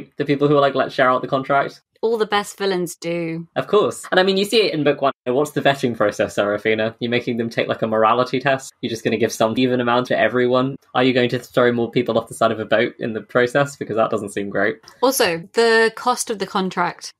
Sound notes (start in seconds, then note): none